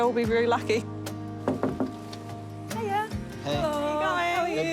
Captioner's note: knocks